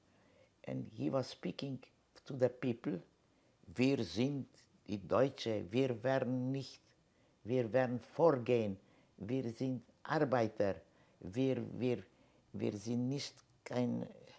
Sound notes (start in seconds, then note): 3.7 german